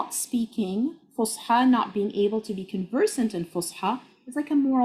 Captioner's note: speaking Arabic